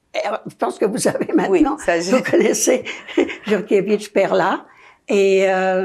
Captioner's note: laughing